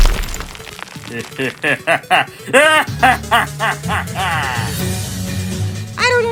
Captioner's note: maniacal Laughter